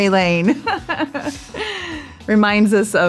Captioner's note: Cameron laughs